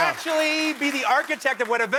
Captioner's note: applause